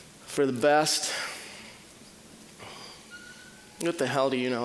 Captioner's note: sighing